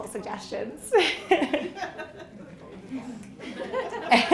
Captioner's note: all laughing